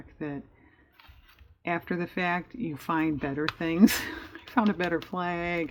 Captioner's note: laughs